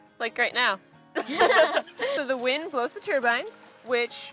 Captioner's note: all laugh